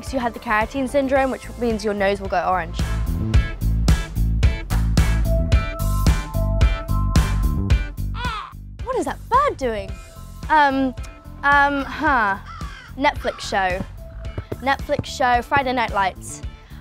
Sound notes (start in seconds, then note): 8.1 bird crowing